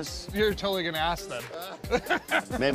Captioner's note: laughter